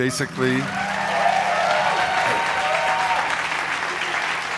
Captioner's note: crowd cheering and clapping